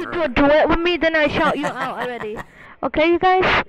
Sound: chuckles

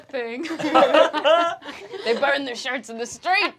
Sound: laughing

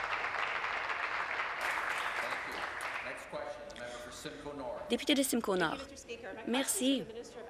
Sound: applause

